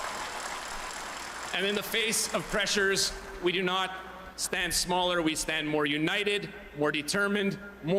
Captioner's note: cheering